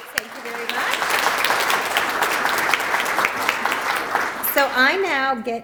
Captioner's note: applause